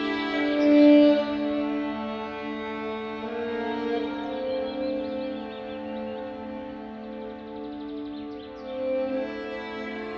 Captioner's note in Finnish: luonon ääniä